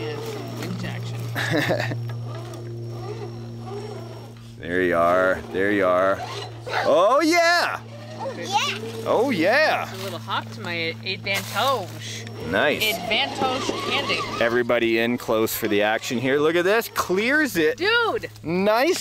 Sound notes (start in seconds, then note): 1.2 laughing